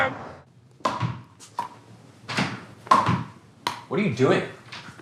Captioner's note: ball bounces